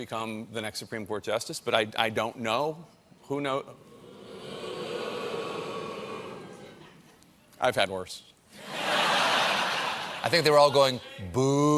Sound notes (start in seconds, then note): 4.0 audience booing; 8.6 laughter